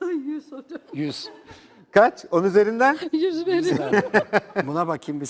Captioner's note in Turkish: kahkaha